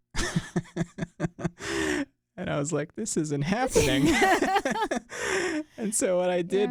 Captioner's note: chuckles; both laugh